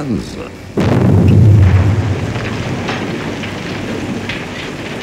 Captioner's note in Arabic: انفجار قنبلة